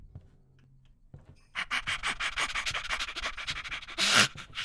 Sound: hyperventilates

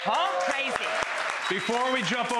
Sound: applause

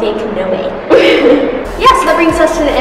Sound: laughing

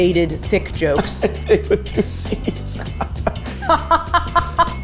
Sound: laughing; Safiya laughing

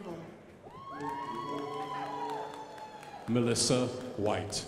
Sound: crowd applauding

